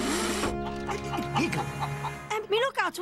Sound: cluck cluck

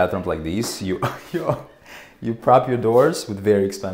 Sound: chuckles

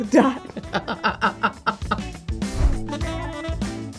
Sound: laughter

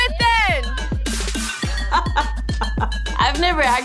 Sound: laughing

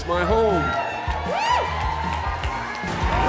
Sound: audience cheers

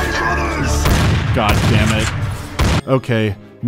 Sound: shotgun blasts

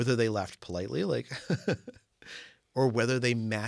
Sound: laugh

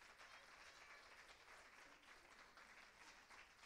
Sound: applause

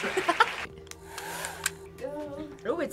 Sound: React laughs; blow dryer revs

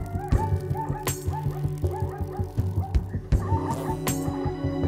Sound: animals making noises

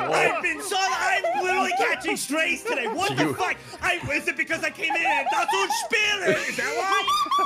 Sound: speaks German

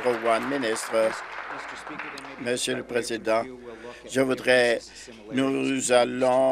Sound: applause

